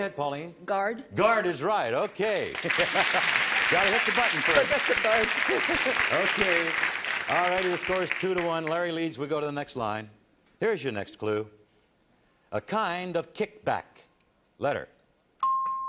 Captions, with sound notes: Go ahead, Pauline. - Guard? - Guard is right, OK. [laughs] Got to hit the button first. - Forgot to buzz. [chuckles] - OK. All righty, the score is 2 to 1. Larry leads. We go to the next line. Here is your next clue. A kind of kickback. Letter.